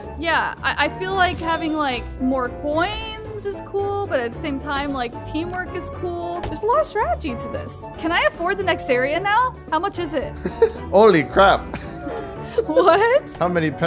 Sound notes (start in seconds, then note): 10.4 laughs